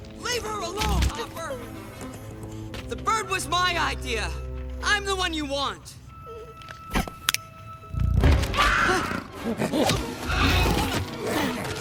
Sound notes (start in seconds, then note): 7.1 snapping; 8.5 shrieking